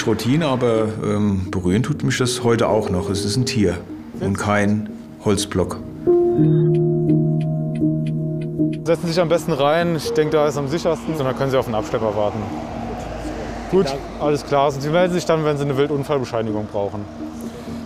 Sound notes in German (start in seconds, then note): 6.1 Nachdenkliche Töne; 6.4 Blinkergeräusche